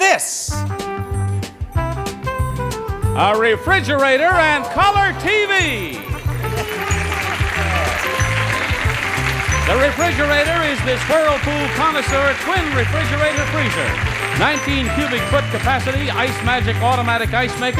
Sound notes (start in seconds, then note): 0.1 upbeat music; 5.6 audience clapping